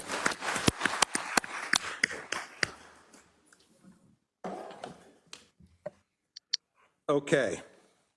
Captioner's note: applause